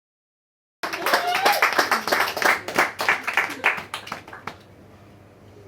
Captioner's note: audience claps and cheers